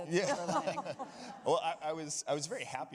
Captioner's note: audience laughing